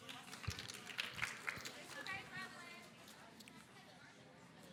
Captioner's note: audience applauding